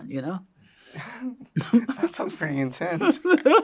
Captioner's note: laughs